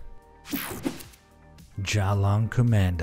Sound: light swishing

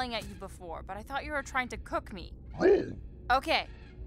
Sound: growls negatively

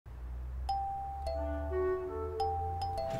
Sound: doorbell ring

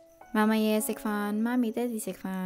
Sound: Cantonese

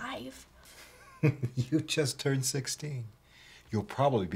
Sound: laughing

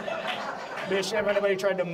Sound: audience laughs

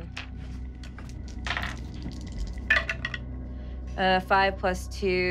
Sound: rolling dice

